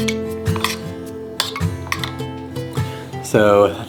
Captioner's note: scraping